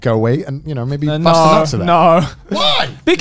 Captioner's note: murmurs